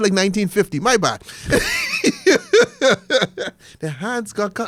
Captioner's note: laughs